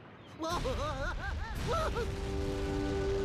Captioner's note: Daffy screaming